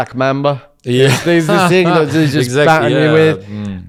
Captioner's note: laughs